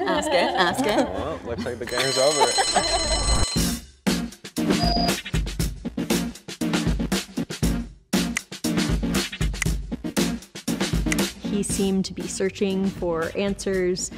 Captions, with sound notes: Ask it, ask it. - Well, looks like the game over. (alarm bell rings) (upbeat pop music) - He seemed to be searching for answers